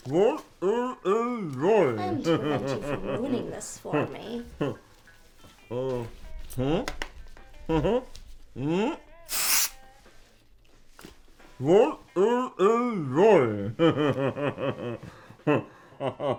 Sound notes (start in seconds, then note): 9.2 spray hisses; 13.9 chuckles